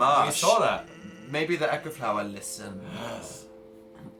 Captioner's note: gasps dramatically